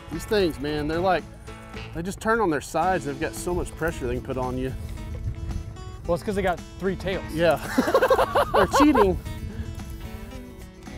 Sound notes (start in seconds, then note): 7.6 both laughs